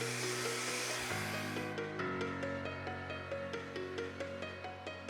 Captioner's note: blower whirring; pleasant music continues